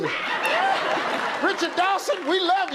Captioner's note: laughter